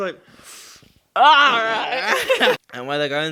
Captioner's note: groaning